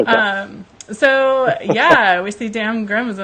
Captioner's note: laughs